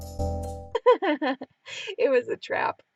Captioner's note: laughing